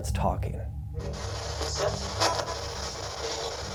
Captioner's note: static